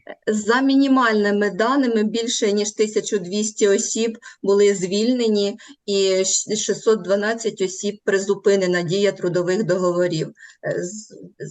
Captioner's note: foreign Language